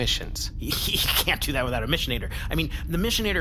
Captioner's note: laughs